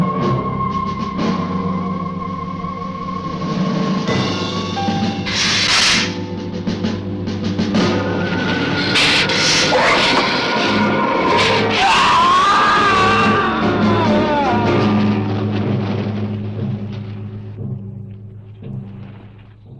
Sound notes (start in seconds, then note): 5.2 lizard hissing; 11.4 man screaming